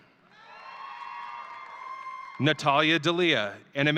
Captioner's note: audience cheering